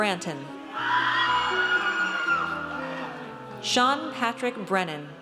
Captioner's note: audience cheers